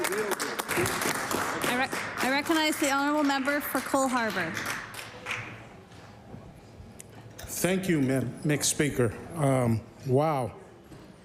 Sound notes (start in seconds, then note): 3.3 applause